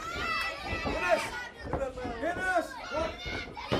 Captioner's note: crowd chatter